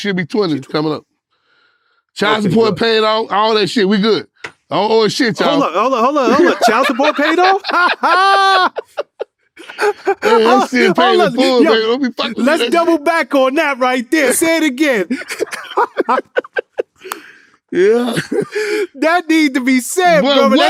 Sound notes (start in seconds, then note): 7.8 laughing; 14.7 laughing